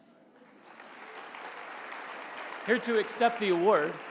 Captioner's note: applause